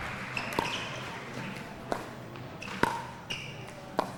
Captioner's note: ball clacking